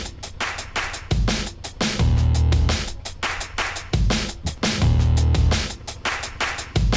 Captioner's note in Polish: Aplauz